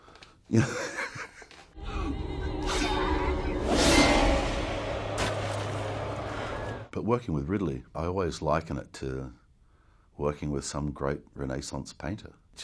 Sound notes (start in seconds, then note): 0.1 giggles; 3.0 sword clanking; 3.8 air whooshes